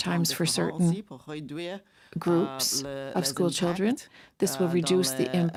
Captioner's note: speaking French